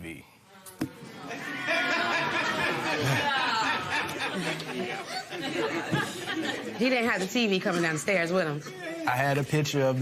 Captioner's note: audience murmurs, laughs